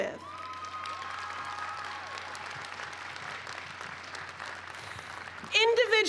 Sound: cheers and applause

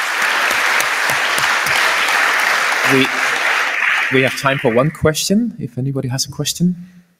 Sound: applause

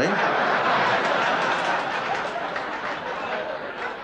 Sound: laughter

